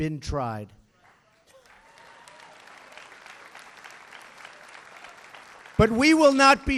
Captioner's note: applause